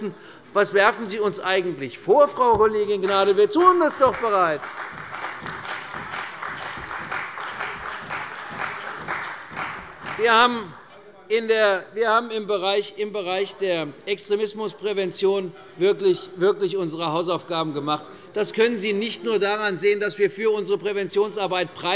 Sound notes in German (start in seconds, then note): 3.5 Beifall bei der CDU